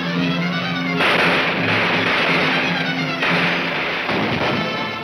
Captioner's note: gunshots banging